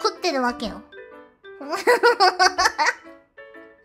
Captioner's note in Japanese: 笑い